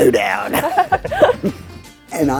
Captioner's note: laughing